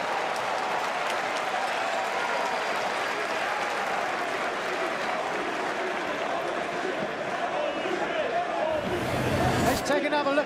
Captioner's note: crowd cheering